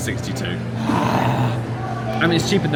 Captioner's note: growls playfully